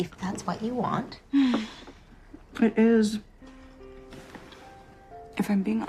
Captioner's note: sighs